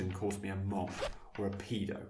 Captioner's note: zip